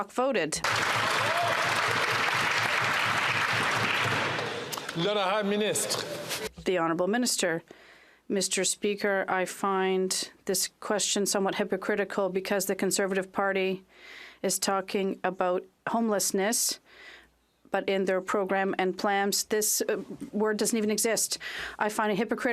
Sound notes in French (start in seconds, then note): 5.5 applaudissements